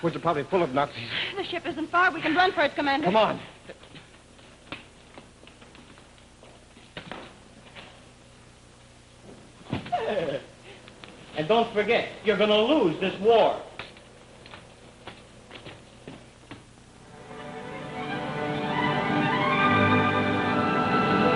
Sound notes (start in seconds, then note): 11.5 laughs; 18.7 upbeat music